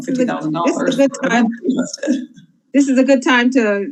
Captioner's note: laughs